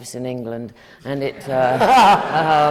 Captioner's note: laughter